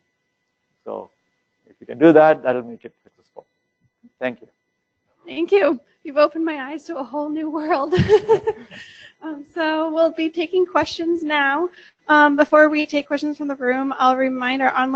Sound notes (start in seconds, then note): 7.8 laugh